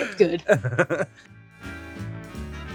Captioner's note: Rob chuckles; upbeat jazz music